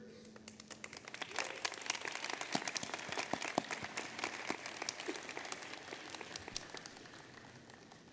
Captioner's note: applause